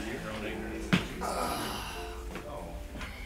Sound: sigh

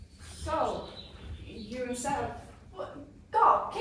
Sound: sound: birds

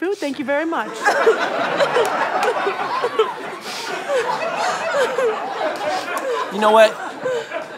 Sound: audience laughter

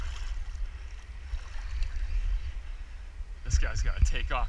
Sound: line reeling

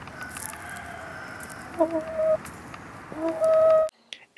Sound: gentle squawking

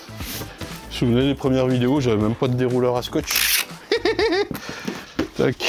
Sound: laugh

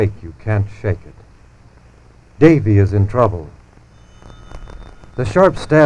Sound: phone rings

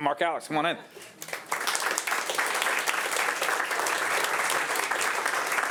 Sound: audience applauding

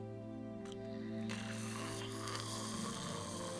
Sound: snoring

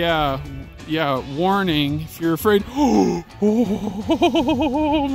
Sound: gasp

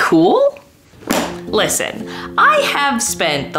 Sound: book slams

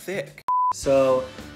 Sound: beep

